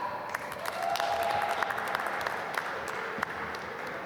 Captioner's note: applause